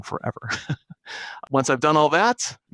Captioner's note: chuckling